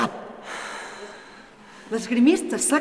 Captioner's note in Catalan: Sospirs